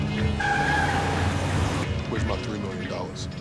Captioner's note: tires squealing